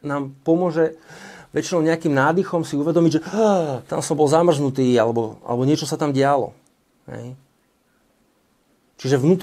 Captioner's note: gasps